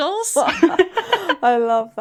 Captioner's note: laughing